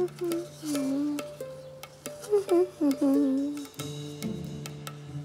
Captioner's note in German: Lina summt gelangweilt vor sich hin